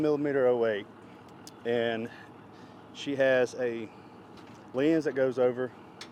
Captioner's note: engine rumbles